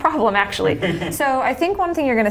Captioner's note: laughs